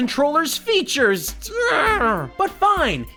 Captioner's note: frustrated grunt